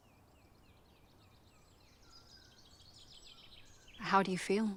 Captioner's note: birds chirping